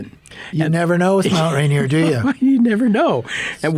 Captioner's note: laughing